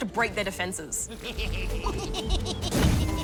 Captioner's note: pigs snigger